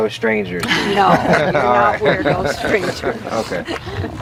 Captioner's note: participants chuckle